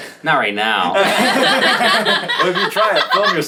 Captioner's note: all laugh